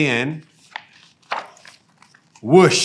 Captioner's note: pages rustling